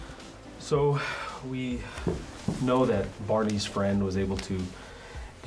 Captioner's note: sighs